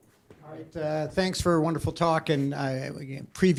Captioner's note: voiceover